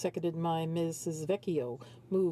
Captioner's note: speaking French